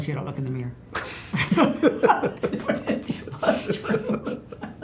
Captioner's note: laughter